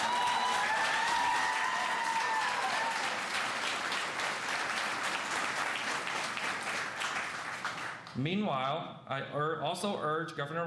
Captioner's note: cheers and applause